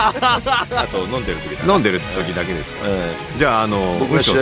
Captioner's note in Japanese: 笑い